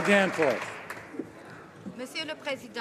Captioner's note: applause